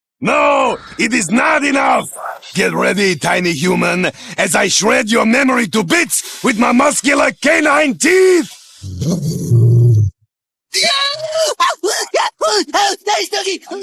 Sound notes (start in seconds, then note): 8.8 growls; 10.7 screaming